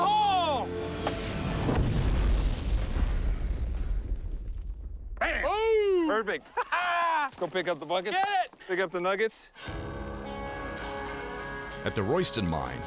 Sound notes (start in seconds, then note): 1.4 explosion